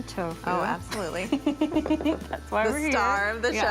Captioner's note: giggles